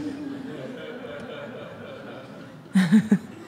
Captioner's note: audience laughs